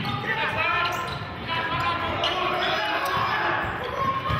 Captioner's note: yelling